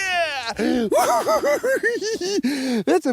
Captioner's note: giggles